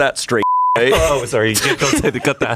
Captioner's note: beep